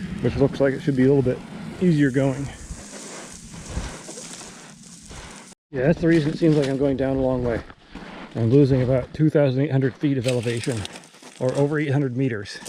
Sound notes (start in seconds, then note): 1.5 feet sliding